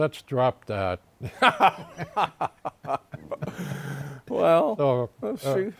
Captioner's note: laughter